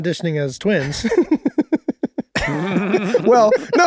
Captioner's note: laughs